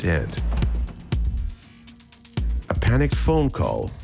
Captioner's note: thumping